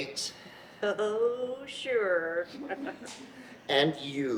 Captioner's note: chuckles